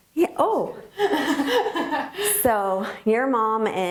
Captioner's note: laughing